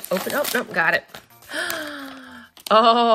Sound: gasps

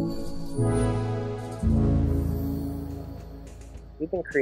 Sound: futuristic sounds

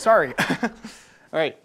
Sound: nervous chuckle

